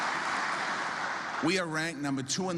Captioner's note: applause